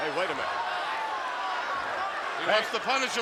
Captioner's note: audience chattering